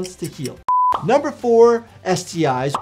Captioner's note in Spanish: pantalla pitando